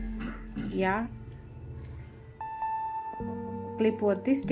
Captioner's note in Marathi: घसा साफ करणे